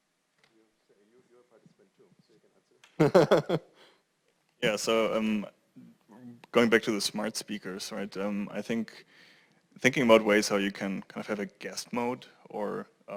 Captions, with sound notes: >> You're a participant too. [LAUGH] >> So going back to the smart speakers, right? I think, thinking about ways how you can kind of have a guest mode or